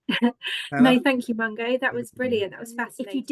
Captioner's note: chuckles